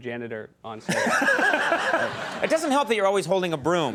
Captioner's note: audience laughs